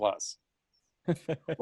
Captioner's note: laughing